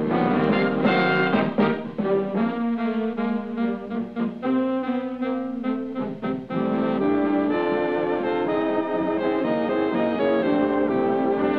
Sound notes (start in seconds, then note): none